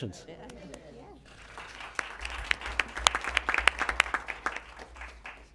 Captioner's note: applause